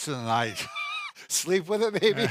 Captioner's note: both laughing